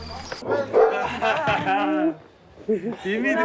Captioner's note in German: Lachen